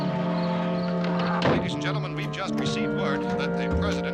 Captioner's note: man on radio